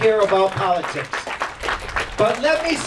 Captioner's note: clapping